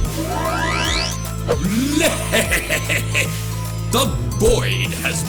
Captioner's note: count bleck laughs maniacally